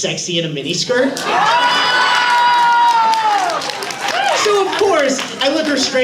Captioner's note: audience oohs